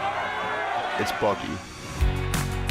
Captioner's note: crowd cheers